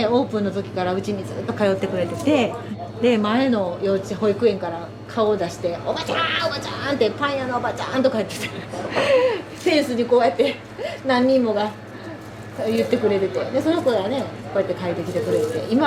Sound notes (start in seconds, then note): 5.9 laughs